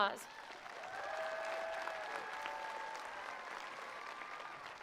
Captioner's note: attendees applauding